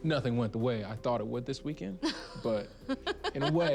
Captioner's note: laughing